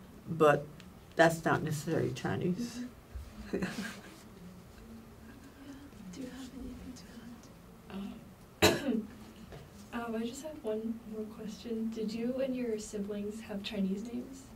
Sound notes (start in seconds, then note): 8.6 coughs